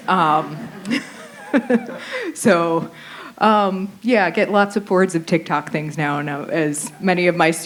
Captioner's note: laughter